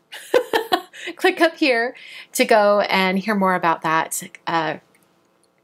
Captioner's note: laughs